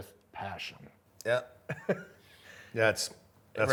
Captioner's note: chuckles